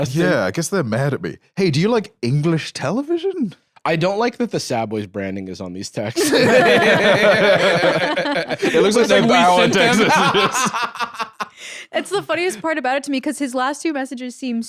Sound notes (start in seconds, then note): 6.2 all laughing; 9.9 laughs